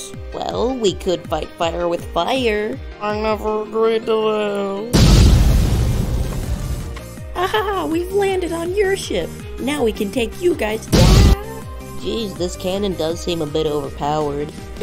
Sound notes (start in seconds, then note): 4.9 big kaboom